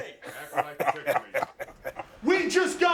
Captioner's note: both chuckling